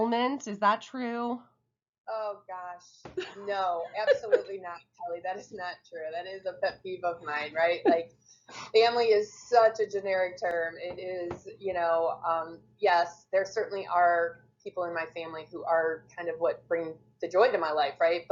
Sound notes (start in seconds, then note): 3.2 laughs